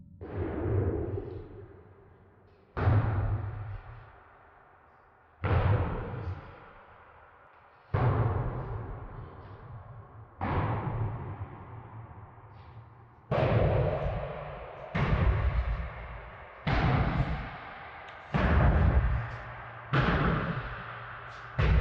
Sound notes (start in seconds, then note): 2.8 thumps echoing; 10.3 thumps echoing continues